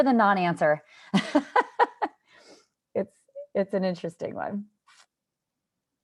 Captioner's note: laughter